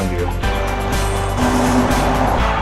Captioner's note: traffic sounds increase; music stops